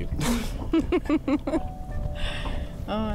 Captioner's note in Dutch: beiden lachen